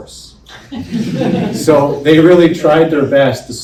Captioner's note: laughing